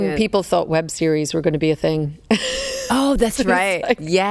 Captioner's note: laughs